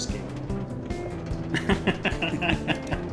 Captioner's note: laughs